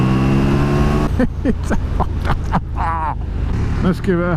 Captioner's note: laughs.. again